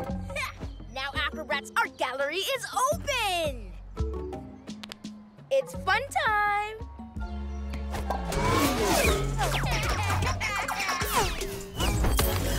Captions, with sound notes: Ha! Now Acrobrat's art gallery is open! It's fun time! (Laughter)